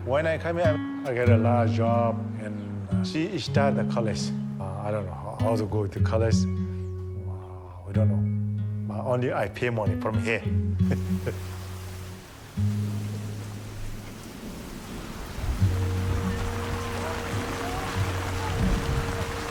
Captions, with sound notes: When I come here, I get a lot of job and she start the college. I don’t know how to go to college? I don’t know. Only I pay money, from here. (slow guitar music) (rain patters)